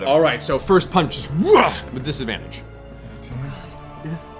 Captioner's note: grunts